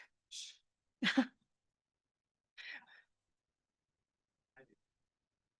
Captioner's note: chuckling